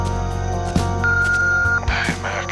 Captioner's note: voicemail beep